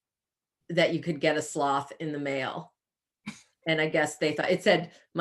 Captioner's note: chuckles